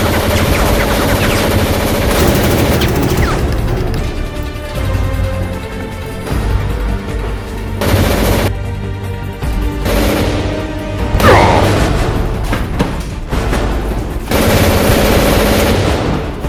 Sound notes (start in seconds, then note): 11.1 groans